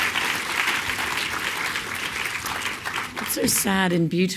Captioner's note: applause